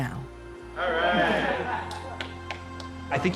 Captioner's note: laughter, clapping